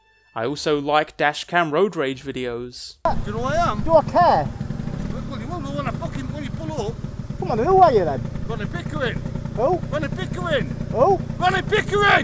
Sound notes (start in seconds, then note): 3.0 men fighting